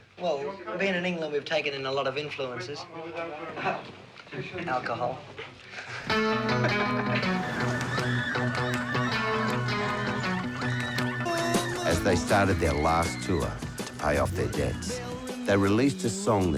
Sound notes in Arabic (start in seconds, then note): 8.6 يضحك; 11.9 موسيقى مبهجة